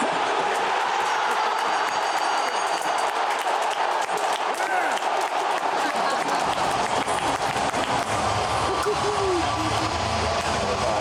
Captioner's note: applause